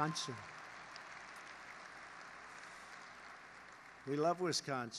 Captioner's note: applause